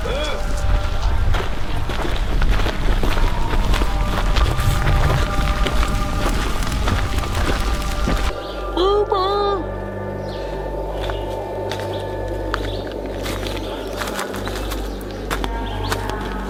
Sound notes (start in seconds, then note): 0.1 Og grunting; 2.3 gravel crunching; 10.6 wind howling